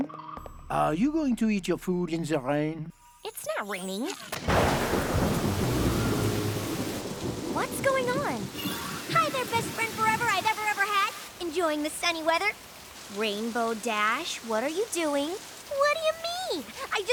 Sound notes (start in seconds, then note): 4.4 thunder rumbles